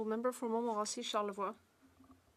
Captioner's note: speaking French